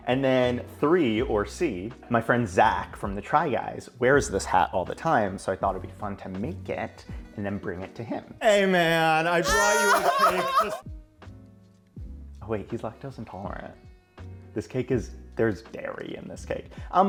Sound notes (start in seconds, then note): 8.5 everyone laughing